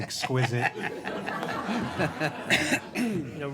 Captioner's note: all laughing